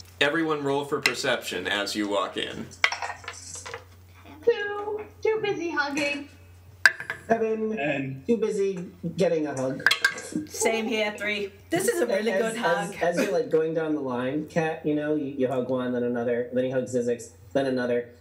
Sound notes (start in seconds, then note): 2.8 dice rolls